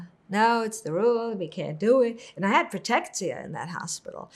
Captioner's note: hebrew